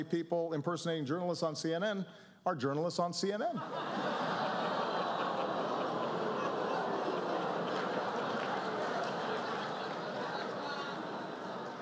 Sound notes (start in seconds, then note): 5.9 crowd: "Ohhh!!!"